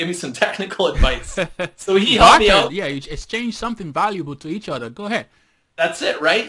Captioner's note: laughter